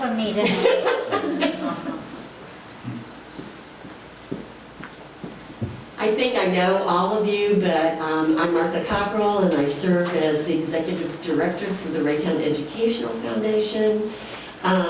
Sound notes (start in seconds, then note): 0.4 laughing